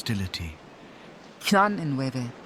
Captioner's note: Tarnolian language